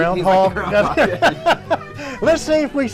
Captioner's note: both laughing